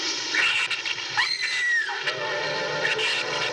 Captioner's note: screams